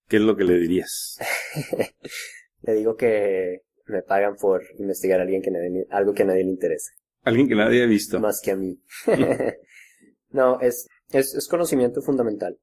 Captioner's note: laughs; laughs